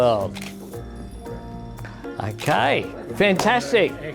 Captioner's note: camera shutter clicks